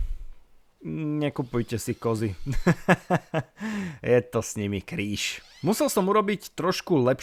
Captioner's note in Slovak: smiech